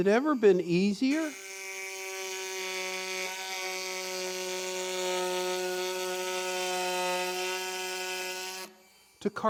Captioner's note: sawing